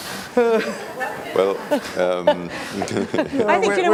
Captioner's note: laughs